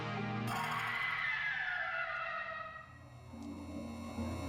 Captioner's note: Screech